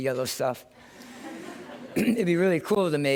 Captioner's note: laughter